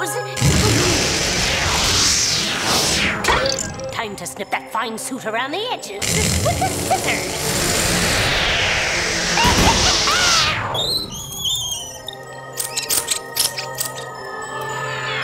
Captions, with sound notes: (magical sound) Time to snip that fine suit around the edges, with the scissors! (Witch cackles) (mice squeak)